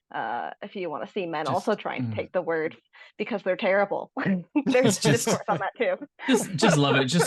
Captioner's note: laughs